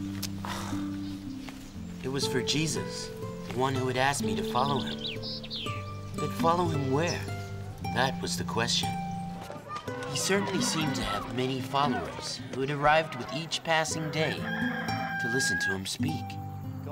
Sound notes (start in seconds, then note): 0.7 Jess scoffs